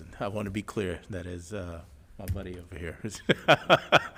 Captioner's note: laughs